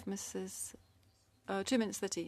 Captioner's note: speaking French